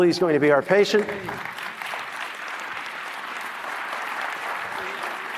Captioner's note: applause